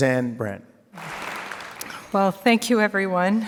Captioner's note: audience applauds